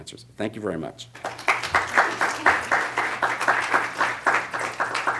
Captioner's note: applause